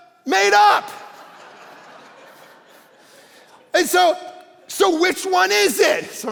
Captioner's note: congregation laughing